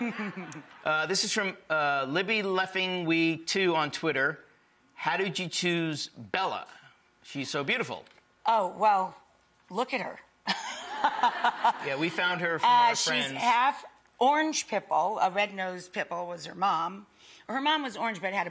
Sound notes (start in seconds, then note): 10.4 laughing